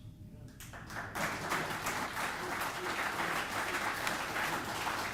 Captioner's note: audience applauding